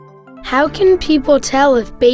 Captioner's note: voiceover